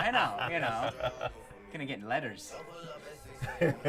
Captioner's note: laughing